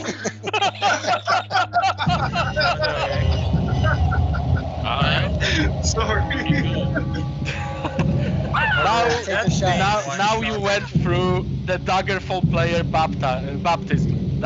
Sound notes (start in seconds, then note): 0.0 all laughing